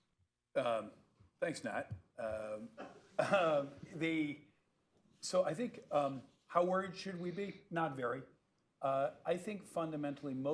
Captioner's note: laughter